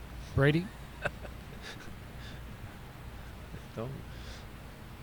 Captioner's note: laughs